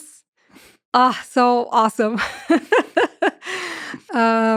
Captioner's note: laughs